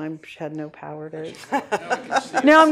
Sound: laughter

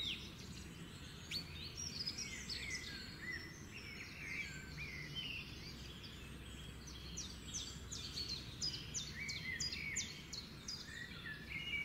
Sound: bird singing

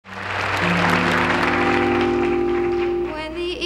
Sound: audience applauding

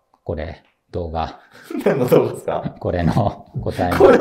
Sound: laughing

